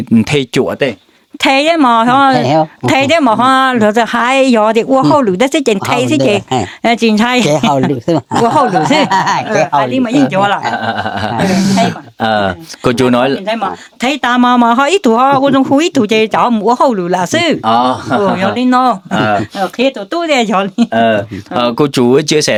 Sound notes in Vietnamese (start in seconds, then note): 7.4 tiếng cười